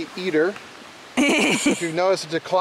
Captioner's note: laughing